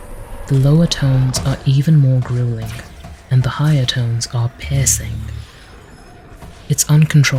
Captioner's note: piercing